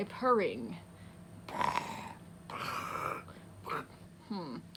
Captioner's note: purrs badly